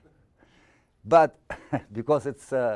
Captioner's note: audience laughing